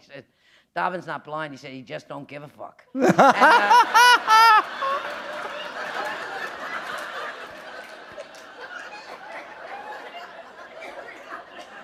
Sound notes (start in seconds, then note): 6.3 laughter